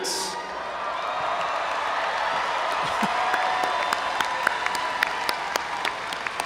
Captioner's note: audience cheering and applauding